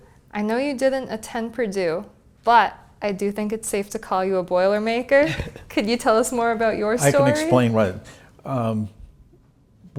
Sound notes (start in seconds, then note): 5.2 laugh